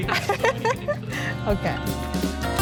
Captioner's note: laughs; upbeat jazz music